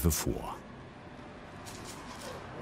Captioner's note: traffic noise